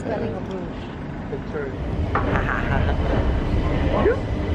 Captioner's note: laughter